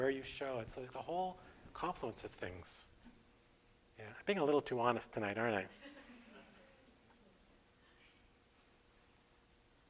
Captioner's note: audience: Laughter